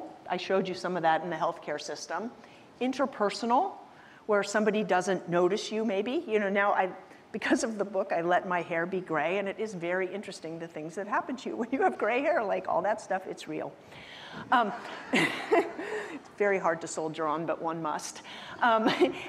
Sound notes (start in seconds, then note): 14.8 chuckles